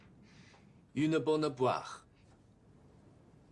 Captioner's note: French